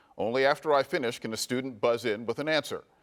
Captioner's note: none